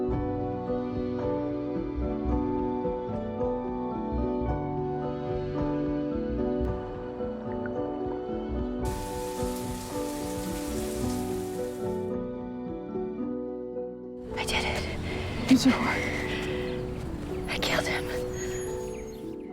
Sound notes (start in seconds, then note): 8.8 water running; 14.3 voiceover